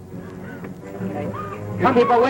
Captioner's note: whimpering